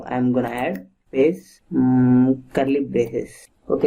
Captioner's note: typing